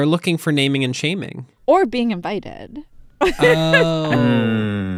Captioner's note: laughter